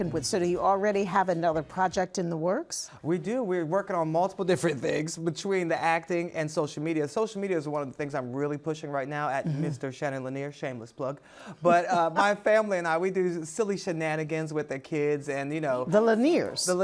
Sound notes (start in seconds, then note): 11.6 laughs